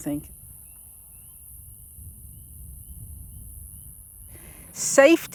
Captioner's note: insects buzzing